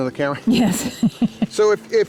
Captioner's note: laughs